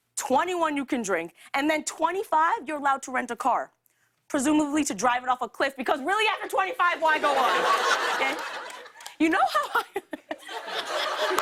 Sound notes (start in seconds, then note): 7.0 laughter; 10.1 laughs